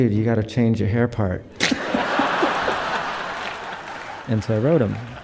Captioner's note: audience laughs